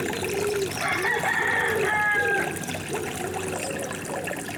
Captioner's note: little ripple of water; cockerel crows. Loudly and enthusiastically. As they do